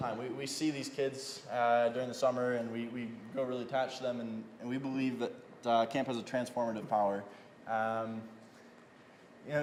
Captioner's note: none